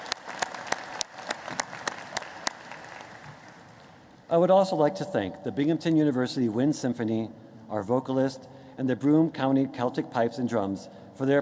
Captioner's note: applause